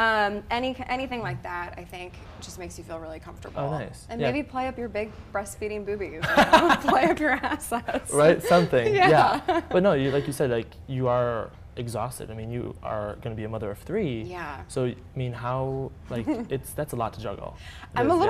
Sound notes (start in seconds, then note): 6.2 laughter